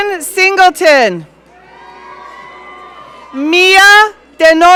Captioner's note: audience cheering